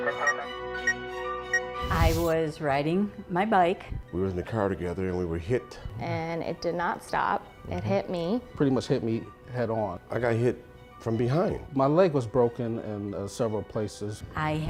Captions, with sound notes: (radio dispatch) I was riding my bike. We was in the car together and we were hit. And it did not stop. It hit me. Pretty much hit me head on. I got hit from behind. My leg was broken in several places.